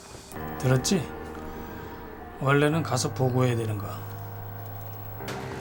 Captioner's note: speaking in Korean